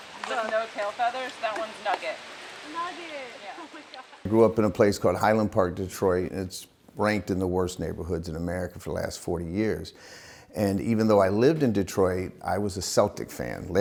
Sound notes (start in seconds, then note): 2.6 laughs